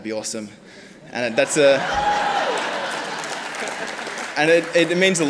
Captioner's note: audience laughs